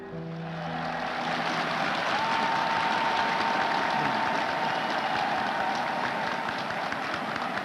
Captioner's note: crowd applauding